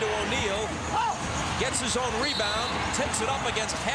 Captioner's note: whistle blows